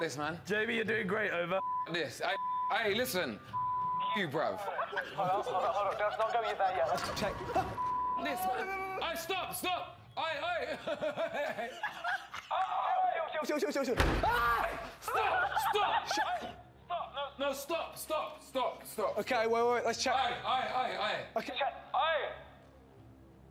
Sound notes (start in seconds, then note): 10.4 laughs; 13.8 banging; 14.2 screams